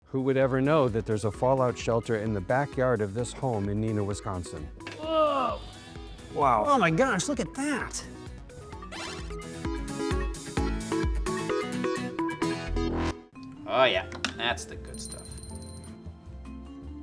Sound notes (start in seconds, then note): 5.0 groans; 10.0 upbeat music